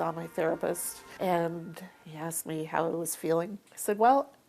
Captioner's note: broom softly scraping